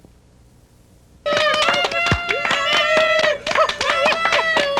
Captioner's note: cheering and applause